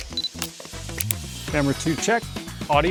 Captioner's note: device beeping and clicking